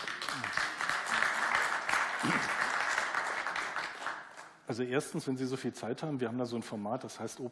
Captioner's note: applause